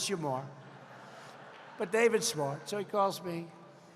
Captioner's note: laughter